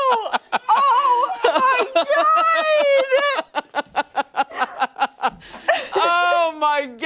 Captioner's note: laughter